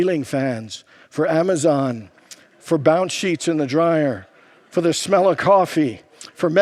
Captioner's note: congregants laugh